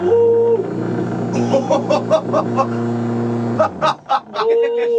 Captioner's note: vibrator revs; vibrator is vibrating so hard it sounds like it's rattling against the table